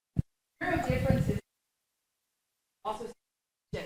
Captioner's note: microphone cuts out